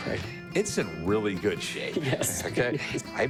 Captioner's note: laughs